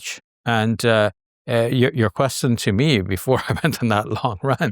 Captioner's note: laughing